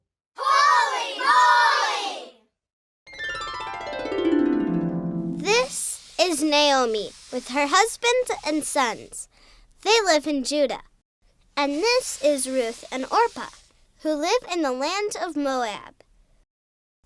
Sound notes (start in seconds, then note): 3.1 harp music; 5.7 voiceover